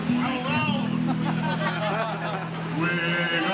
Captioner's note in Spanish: Risas